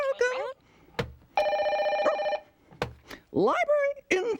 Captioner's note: telephone rings